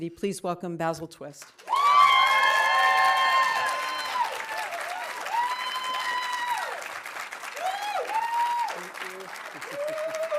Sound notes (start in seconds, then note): 1.5 audience applauding; 1.6 audience cheering